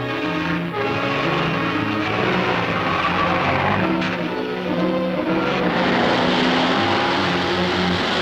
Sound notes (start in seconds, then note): 5.1 car revving